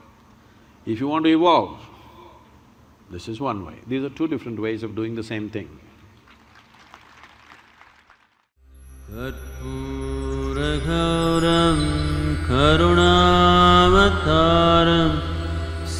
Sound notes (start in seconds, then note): 12.1 applause